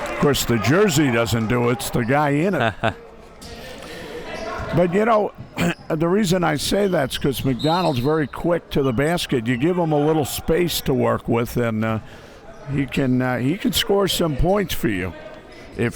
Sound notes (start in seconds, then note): 2.4 laughing